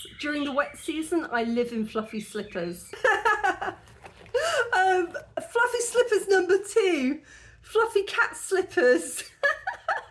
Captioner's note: laughing; laughing